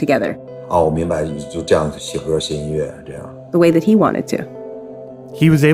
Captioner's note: speaking Mandarin Chinese